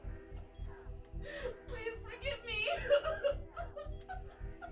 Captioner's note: crying